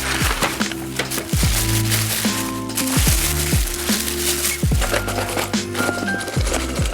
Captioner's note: upbeat music; wrapper crinkling